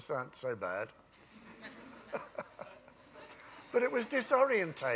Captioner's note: laughter